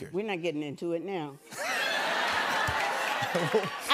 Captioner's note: laughter